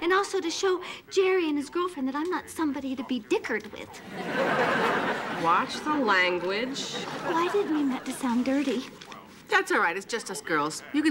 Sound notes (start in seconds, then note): 4.0 audience laughing